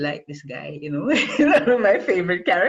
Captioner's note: laughs